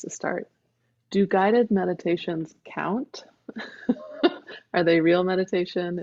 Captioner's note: laughing